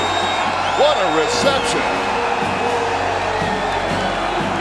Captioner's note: crowd cheers